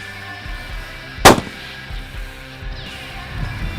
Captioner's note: gun Shot